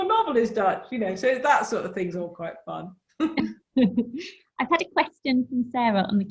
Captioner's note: laughs